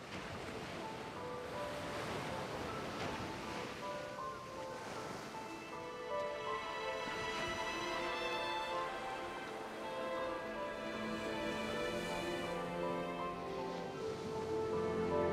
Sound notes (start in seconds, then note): 0.8 melancholic music; 0.8 waves crashing